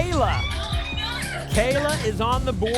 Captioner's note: applause and cheering